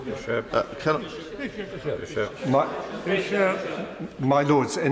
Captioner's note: members chatter